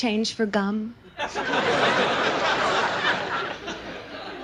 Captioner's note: audience laughs